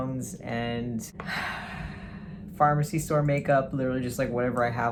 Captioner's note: sighs